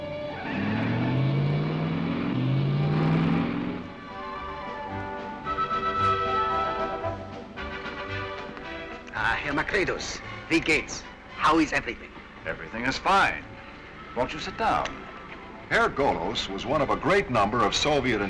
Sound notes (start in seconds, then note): 0.0 tires squealing; 5.5 cheerful instrumental music